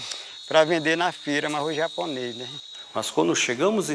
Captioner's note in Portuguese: Sons de insetos no mato